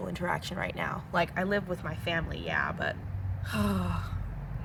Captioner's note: sigh